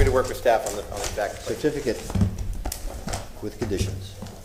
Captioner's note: sounding gavel